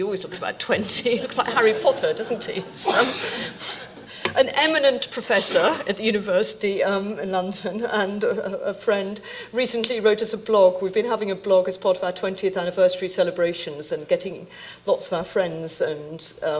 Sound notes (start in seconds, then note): 0.3 laughing; 3.7 audience laughing